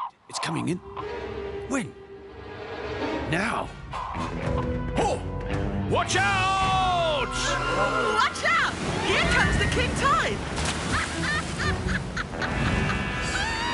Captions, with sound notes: It's coming in? When? Now? Oh! Watch out! Watch out, here comes the king tide. (Nanda laughs)